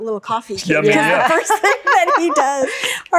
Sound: everyone laughs

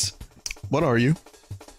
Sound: clicks tongue

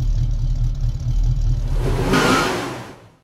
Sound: engine Revving; tires Squeeling

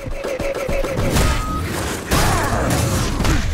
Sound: grunting

